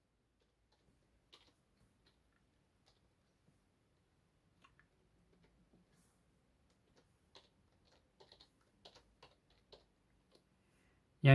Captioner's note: keyboard typing sound